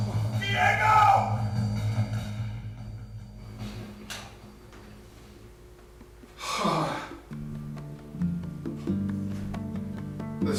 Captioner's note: gasps